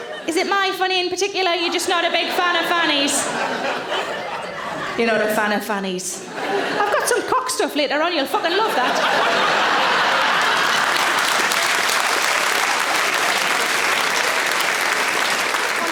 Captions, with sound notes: Is it my fanny in particular or you're just not a big fan of fannies? You're not a fan of fannies. I've got some cock stuff later on, you'll fucking love that. (audience laughing) (audience applauds)